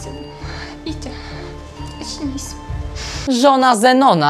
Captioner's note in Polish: coś tam mówi po Białorusku, pewnie że go kocha bardzo